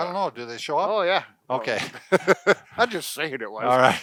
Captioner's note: laughs